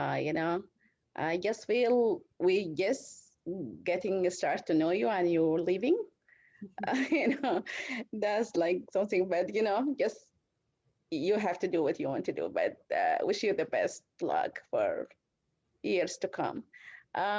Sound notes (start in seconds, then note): 6.6 laughter